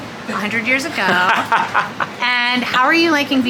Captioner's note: laughing